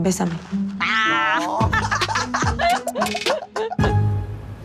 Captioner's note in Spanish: Risas